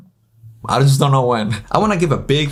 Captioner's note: laughs